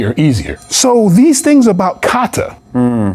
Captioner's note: phone rings